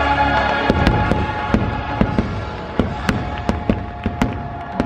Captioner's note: fireworks exploding